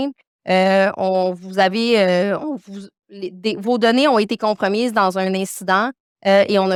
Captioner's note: continues speaking French